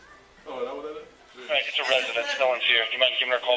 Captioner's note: radio chatter